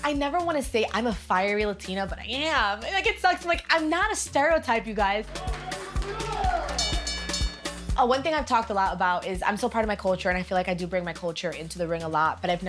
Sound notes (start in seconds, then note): 6.7 bell dinging